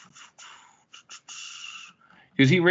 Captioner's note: squeaking